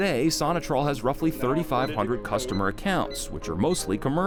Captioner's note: buttons beeping